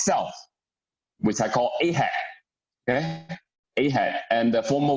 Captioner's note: murmur